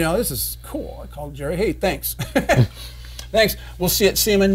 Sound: chuckles

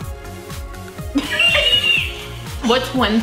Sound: giggles

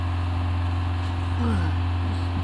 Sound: grunts

